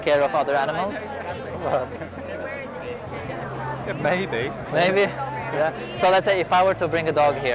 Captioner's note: laughs